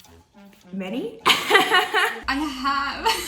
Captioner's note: laughing